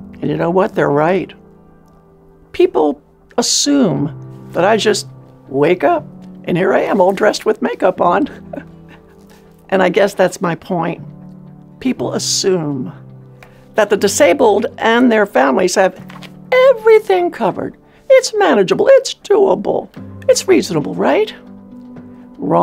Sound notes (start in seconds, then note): 8.3 chuckles